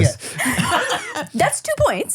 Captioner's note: laughs